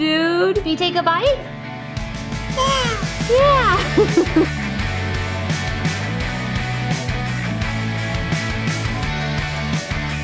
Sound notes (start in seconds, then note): 3.3 laughs; 4.6 upbeat music